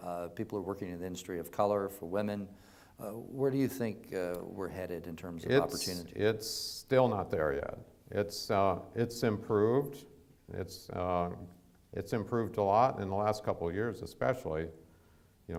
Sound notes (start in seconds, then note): none